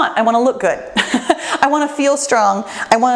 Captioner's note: laughs